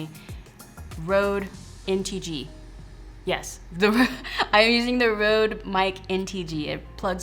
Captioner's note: laughs